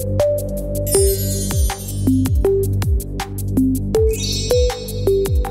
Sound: chimes ringing; chimes ringing

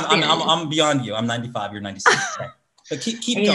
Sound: laughs

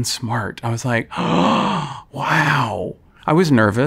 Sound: gasps

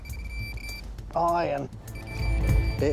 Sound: beeping; beeps

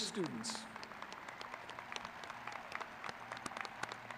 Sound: crowd clapping

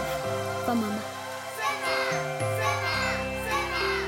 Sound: crowd chants

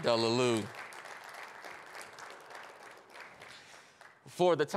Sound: attendees applauding

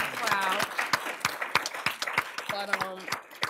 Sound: applause

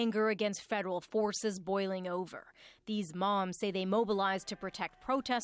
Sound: yelling

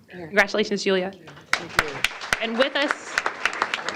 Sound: applause

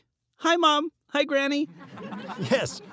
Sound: audience laughing

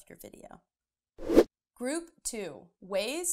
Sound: air swooshing

